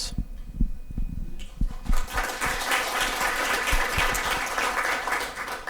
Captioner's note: audience applause can be heard